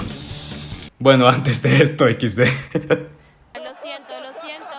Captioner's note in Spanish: risas